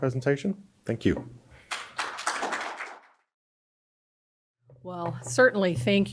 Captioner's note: audience applauds